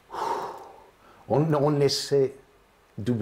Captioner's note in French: Il soupire